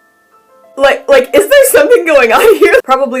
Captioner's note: stammering